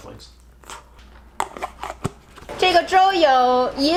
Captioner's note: lid scraping; speaking Chinese